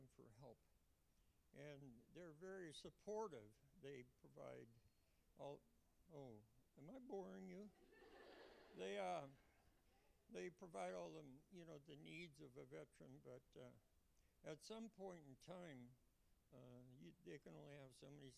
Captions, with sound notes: And I went to them for help. And they're very supportive. They provide all -- oh, am I boring you? (Laughter). They provide all the, you know, the needs of a veteran, but at some point in time, they can only